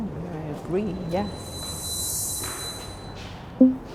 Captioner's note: wind screeches; bell dings lightly